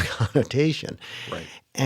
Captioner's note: laughter